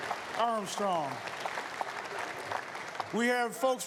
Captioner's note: applause